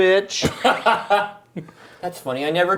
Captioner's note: laughing